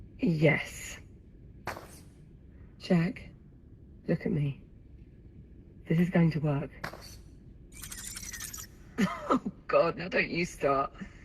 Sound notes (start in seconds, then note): 7.7 frightened whine